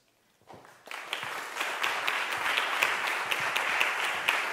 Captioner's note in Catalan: Aplaudiments